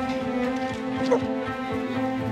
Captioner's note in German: Hundebellen